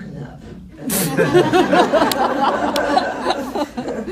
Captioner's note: laughs